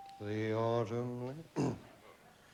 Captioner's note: clears throat